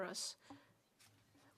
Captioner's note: speaking French